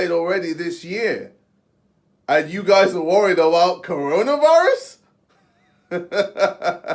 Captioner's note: laughs